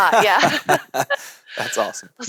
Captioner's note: laughing